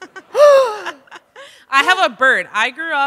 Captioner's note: gasps